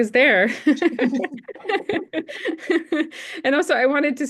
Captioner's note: laughing